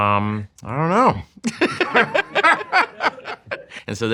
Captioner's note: laughing